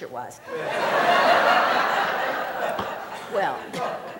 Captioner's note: laughter